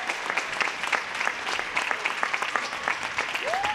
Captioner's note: applause